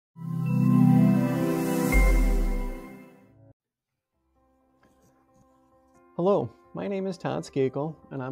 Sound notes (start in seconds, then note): 0.4 logo chiming; 4.2 bright music